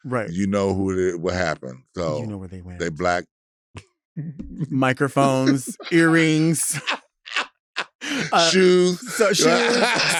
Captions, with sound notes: - Right. - You know what happened, so- - You know where they went. - They black... (chuckles) - Microphones, earrings. (laughing) - Shoes. - So, shoes.